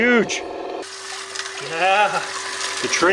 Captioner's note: water gurgling